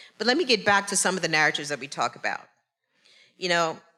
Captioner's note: none